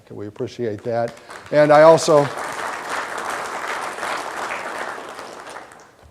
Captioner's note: audience applause